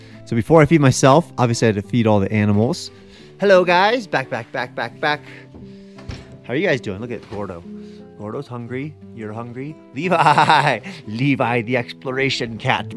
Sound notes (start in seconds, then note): 10.1 chuckling